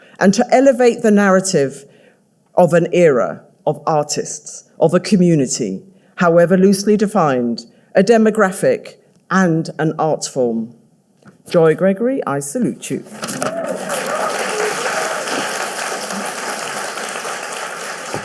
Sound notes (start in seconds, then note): 13.2 audience cheering